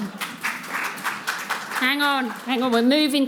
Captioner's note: audience applauding